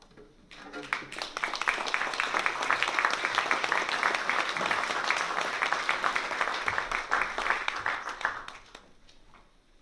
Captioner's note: applause